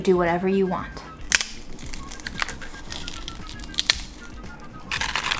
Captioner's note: chip cracking; chips rattling